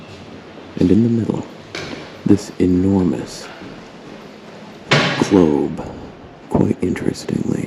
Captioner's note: thunk